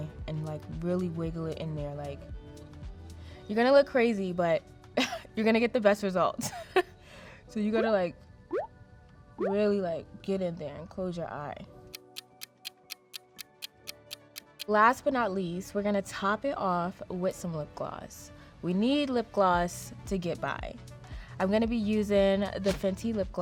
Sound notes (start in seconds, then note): 11.9 clock ticking